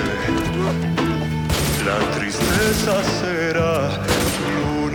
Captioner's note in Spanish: Disparos